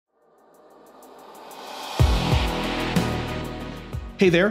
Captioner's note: screen swooshes; upbeat music